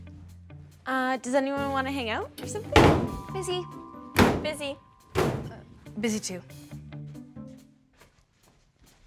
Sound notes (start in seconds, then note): 2.8 locker slamming